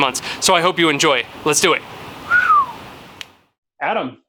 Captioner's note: whistles